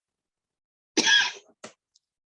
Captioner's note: coughs